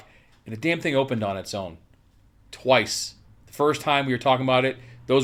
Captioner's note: none